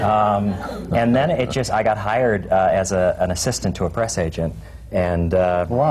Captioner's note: laughter